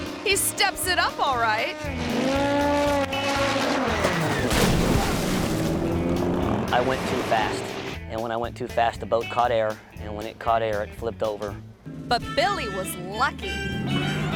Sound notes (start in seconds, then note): 4.2 airboat crashing